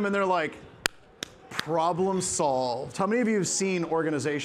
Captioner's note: claps